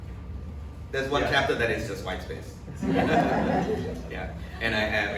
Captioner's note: audience laughs